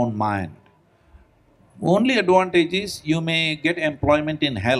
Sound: none

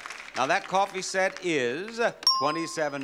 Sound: bell dings

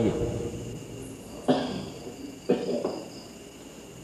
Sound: coughing

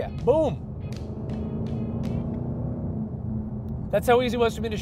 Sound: car engine roaring

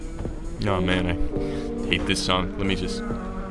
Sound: inhale

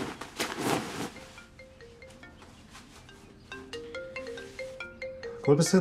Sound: phone ringing

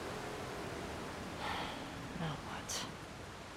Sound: sigh

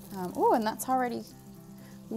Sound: sizzling

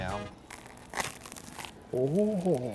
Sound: cookie cracking

